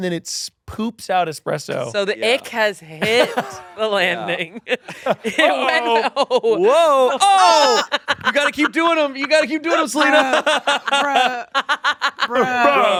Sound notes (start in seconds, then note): 4.5 laughs; 7.2 laughing